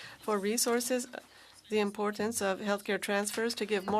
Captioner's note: speaking French